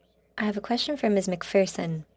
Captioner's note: speaking French